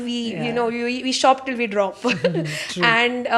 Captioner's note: laughs